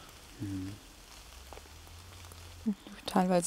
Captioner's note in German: Regenprasseln